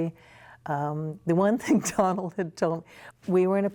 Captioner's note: laughter